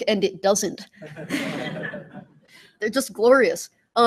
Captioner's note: laughter